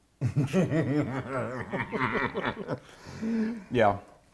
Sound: laughs maniacally

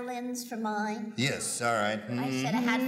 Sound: humming

